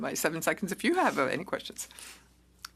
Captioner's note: speaking French